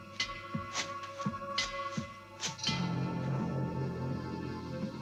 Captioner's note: footsteps pattering